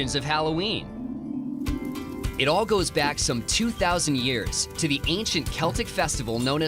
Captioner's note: crackling fire